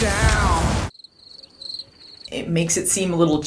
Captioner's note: cricket sounds